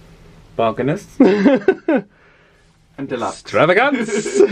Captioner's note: laughs